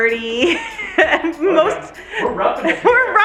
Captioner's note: laughing